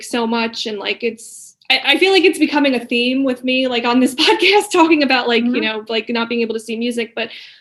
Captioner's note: laughing